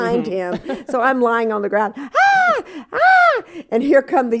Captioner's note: screaming